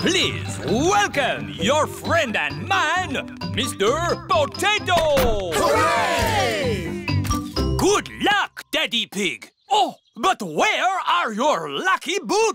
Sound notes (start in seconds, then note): 7.2 camera shutters clicking